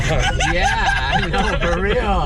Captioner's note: laughter